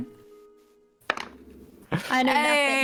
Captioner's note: dice roll; laughs